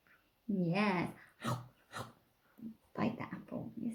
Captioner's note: munches